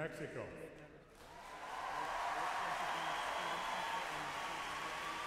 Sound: audience cheers and applauds

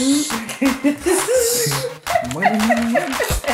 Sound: laughs

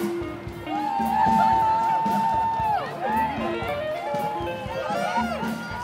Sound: applause

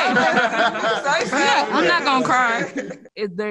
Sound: all laugh

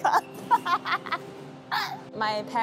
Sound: laughter

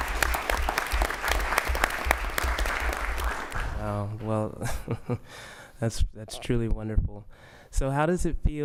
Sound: applause

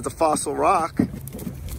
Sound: wind blows

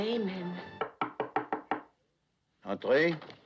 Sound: knock On Door

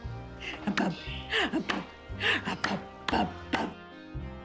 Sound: clapping

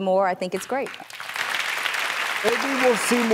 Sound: audience applauds

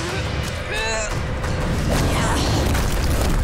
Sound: grunting

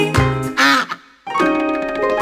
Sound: duck quacks; upbeat music

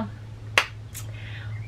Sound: clap

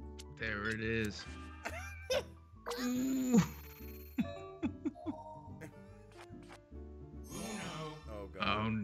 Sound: laugh

